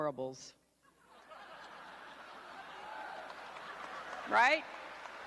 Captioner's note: crowd laughing